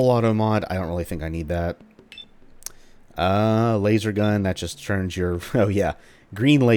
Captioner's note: chuckles